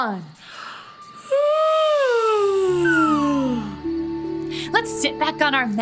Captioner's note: yawning